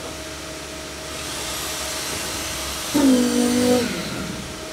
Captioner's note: cement pumping; machine revving